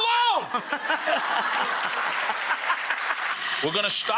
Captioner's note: audience applauds